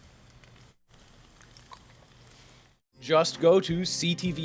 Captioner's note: sausage sizzling